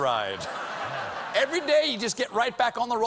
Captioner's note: laughter